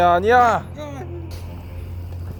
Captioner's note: argh